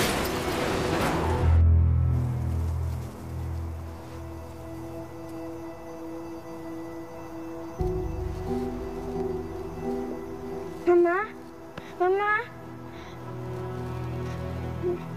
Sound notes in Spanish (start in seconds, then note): 0.0 Estruendo